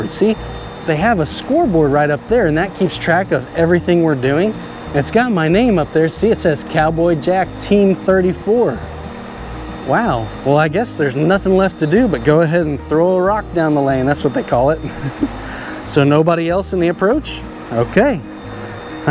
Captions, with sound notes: See, they have a scoreboard right up there. And that keeps track of everything we're doing. And it's got my name up there. See, it says Cowboy Jack, Team 34. Wow. Well, I guess there's nothing left to do but go ahead and throw a rock down the lane. That's what they call it. (chuckles) So nobody else in the approach. Okay.